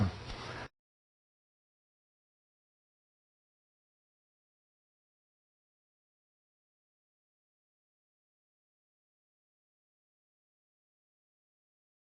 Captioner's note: silence